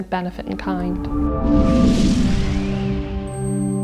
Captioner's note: whooshing